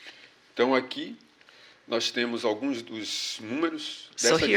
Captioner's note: speaking portuguese